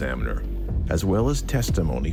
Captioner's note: people chatting